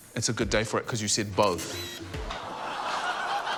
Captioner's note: camera lens clicks; laughter